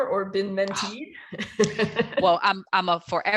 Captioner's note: laughs